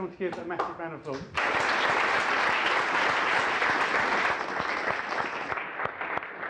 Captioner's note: applause